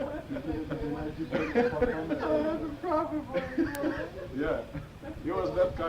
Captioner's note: laughter